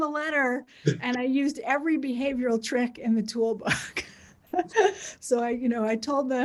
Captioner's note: laughs